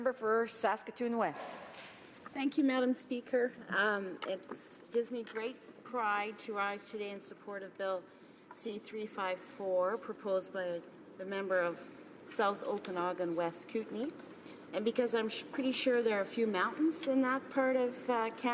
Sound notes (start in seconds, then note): 4.6 speaking in french